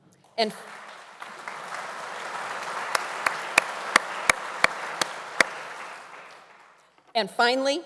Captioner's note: audience applauding